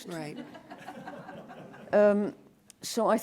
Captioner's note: laughter